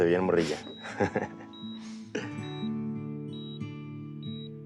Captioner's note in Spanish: Sonido de telemetría